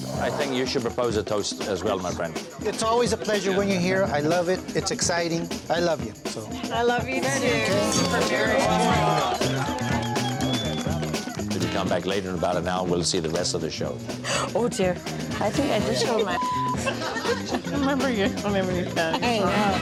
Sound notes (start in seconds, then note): 7.6 cheering and clapping